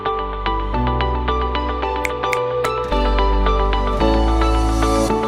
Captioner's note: fingers snapping